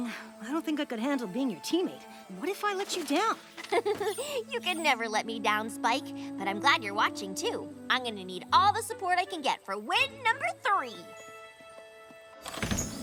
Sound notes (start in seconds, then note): 3.8 chuckle